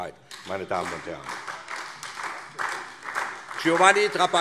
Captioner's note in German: Beifall SPD